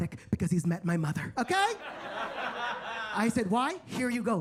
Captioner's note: attendees laughing